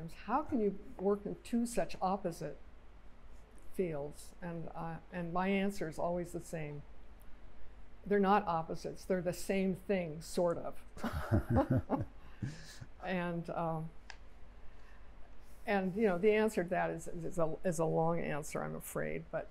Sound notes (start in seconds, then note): 11.0 laughter